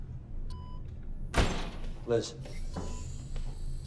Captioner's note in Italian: porta si apre